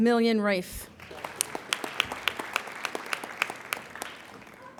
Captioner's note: applauding